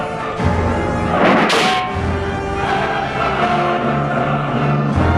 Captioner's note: weapons clash